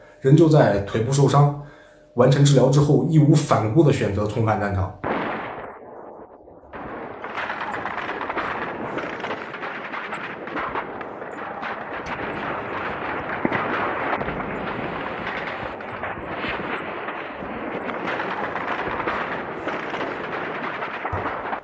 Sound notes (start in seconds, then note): 5.8 sounds of artillery fire